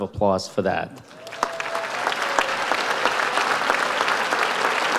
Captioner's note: audience applauds